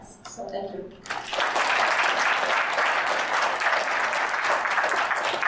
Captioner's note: audience applauding